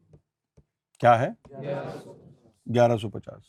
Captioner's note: audience replies